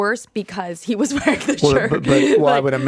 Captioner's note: chuckles